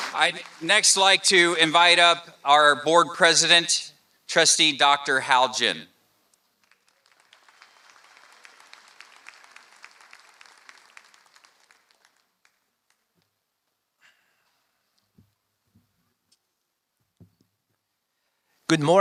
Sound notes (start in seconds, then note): 6.5 applause